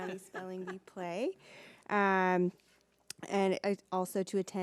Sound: laughing

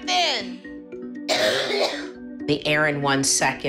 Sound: coughing

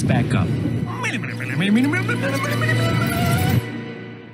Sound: mimicking reverse audio

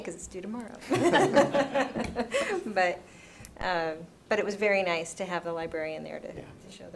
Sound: laughs

